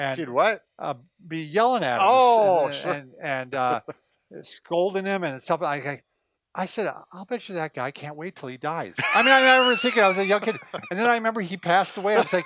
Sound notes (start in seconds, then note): 9.0 laughs